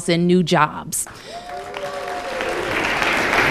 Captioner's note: applause